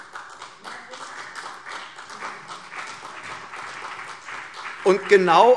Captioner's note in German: Beifall CDU und BÜNDNIS 90/DIE GRÜNEN